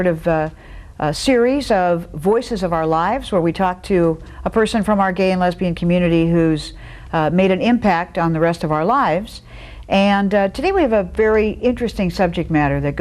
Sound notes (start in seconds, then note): none